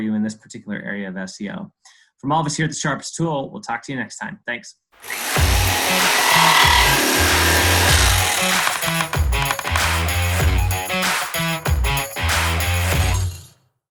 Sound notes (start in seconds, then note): 5.0 saw blade whirring; 7.2 upbeat music